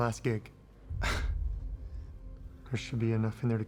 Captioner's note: sighs